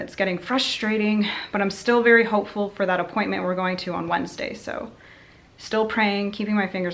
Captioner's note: sighs